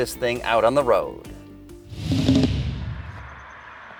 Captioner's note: car revving